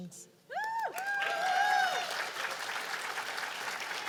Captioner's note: cheers and applause